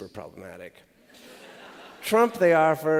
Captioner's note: laughter